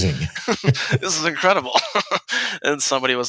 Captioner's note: chuckles; laughs